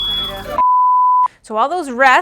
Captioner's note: fire alarm beeping; broadcast beep